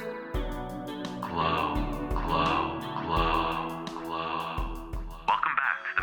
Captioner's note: echoes